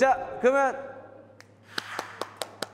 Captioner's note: snap; clapping